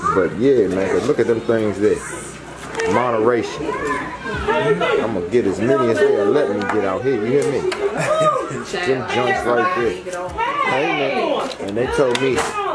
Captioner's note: chuckles